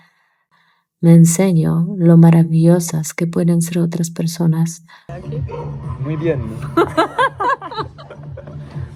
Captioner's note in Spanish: risas